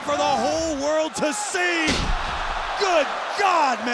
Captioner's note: crowd cheering; body thudding